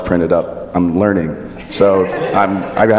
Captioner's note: laughing